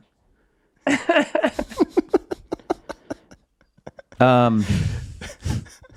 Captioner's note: laughing